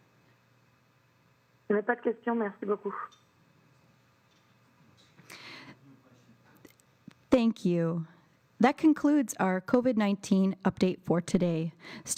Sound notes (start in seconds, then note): 1.6 speaking French